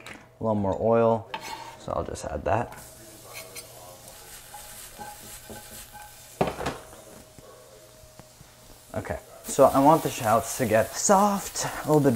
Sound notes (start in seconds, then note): 3.2 sizzling